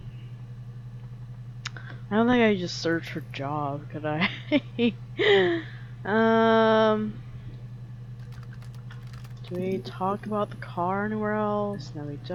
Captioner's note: laughs